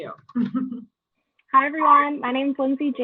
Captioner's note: laugh